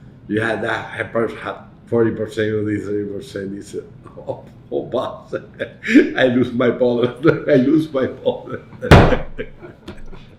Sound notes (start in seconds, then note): 5.5 laughs